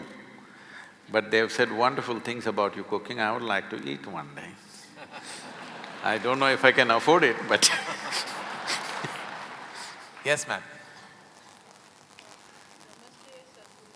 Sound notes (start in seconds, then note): 5.0 laughter/Applause; 8.8 laughter